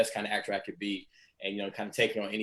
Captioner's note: none